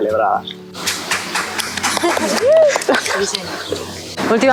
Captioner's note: applause